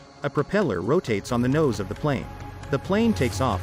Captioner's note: propellor buzzing